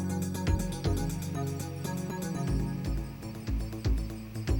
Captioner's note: static